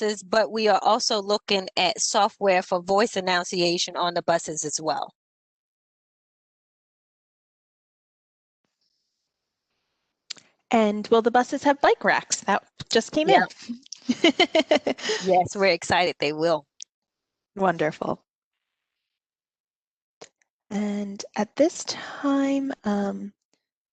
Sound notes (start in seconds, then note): 14.0 laughter